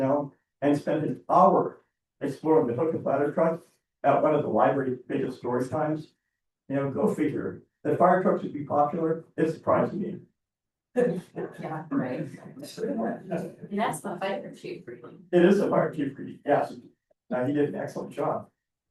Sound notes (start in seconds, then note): 11.9 board members chuckling